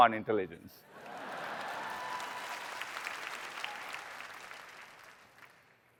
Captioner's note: applause